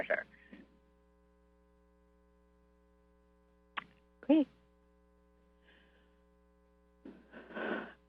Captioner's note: silence